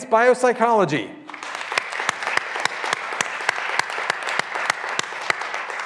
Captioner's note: graduands applauding